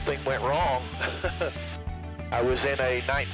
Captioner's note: laughs